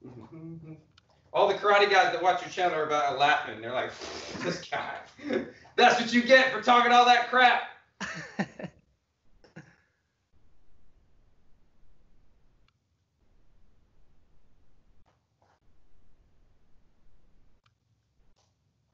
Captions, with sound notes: - All the karate guys that watch your channel are just laughing. They're like, "This coward." That's what you get for talking all that crap. (laughs softly)